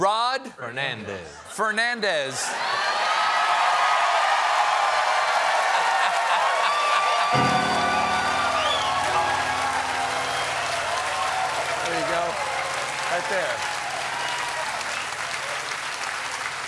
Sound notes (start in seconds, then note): 15.1 cheers and applause; 15.1 piano riff